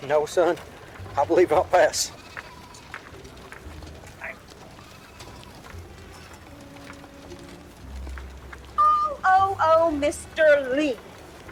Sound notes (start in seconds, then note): 3.2 soft melodic music; 3.2 townsfolk bustling